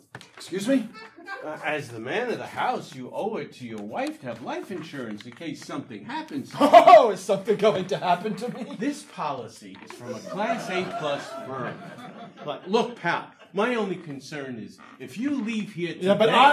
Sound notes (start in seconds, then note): 9.9 audience laughing